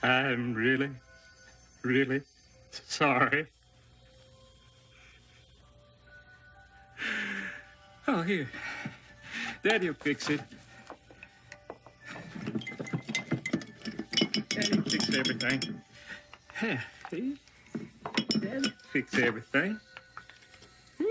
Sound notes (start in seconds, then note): 7.1 gasps; 11.6 objects rattling on desk